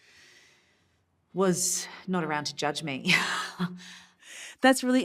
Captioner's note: chuckles